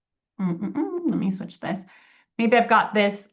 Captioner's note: hums